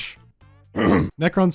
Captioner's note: coughs in Nehekhara